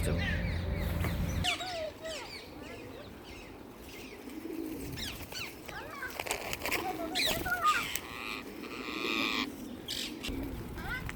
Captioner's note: birds chirping and squawking